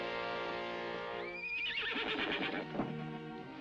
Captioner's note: horse neighs